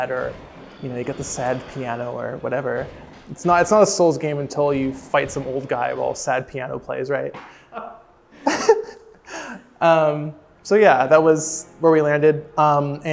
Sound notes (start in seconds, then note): 8.4 chuckling; 8.4 laughing